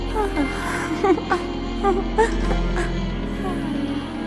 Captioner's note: tired laughing